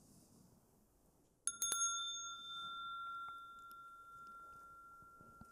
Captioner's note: rings the bell